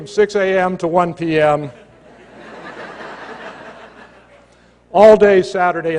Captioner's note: laughter